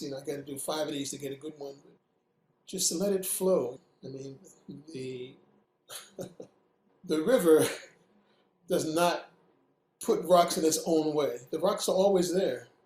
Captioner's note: laughing